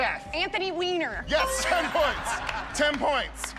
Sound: laughter

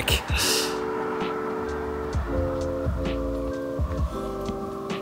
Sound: car whirring

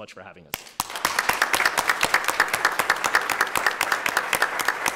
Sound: audience applauding

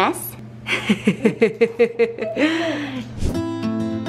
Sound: laughing; acoustic music

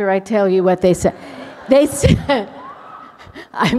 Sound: laughter

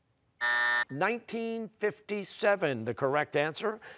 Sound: buzzer

